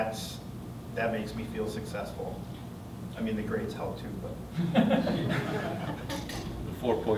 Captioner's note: laughter